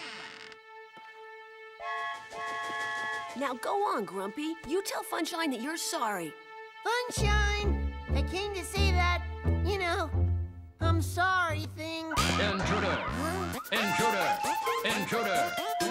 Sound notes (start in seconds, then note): 1.8 toy train whistle blows